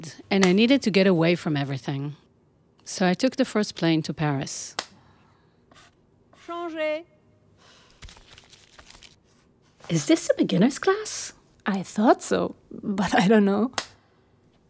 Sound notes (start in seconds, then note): 6.4 woman speaking French